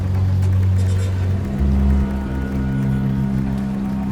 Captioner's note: none